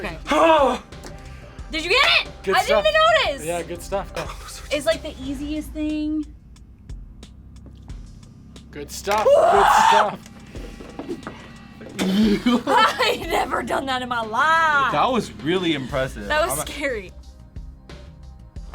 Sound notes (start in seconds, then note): 4.2 whispers; 9.2 screams; 12.0 both laugh